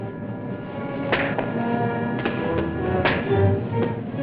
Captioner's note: punching